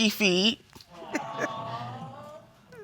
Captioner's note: chuckles